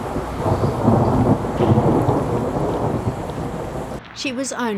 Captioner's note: thunder noise